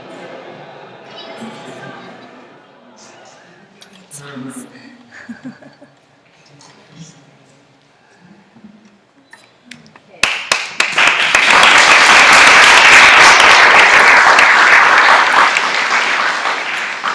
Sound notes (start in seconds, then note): 5.1 laughter; 10.2 applause